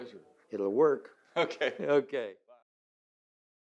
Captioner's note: laughs